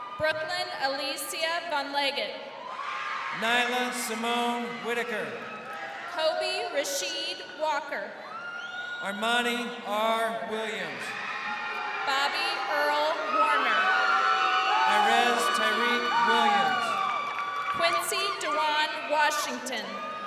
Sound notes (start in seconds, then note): 14.1 crowd cheering